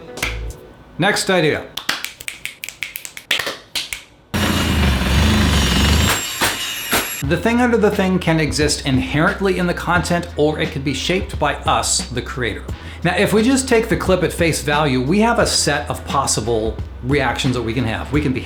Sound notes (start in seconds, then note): 1.7 snaps and claps; 1.8 claps; 4.3 saw buzzing